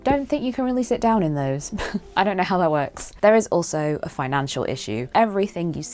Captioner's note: chuckle